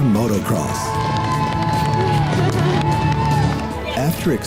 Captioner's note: cheering